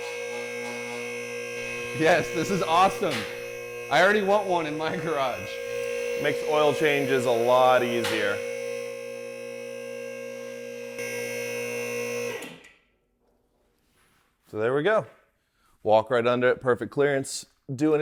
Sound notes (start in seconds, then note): 8.8 machine roaring